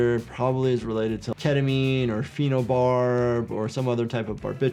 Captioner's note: none